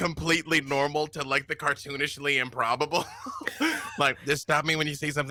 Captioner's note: laughs